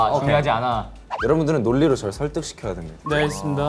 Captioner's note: authoritative tone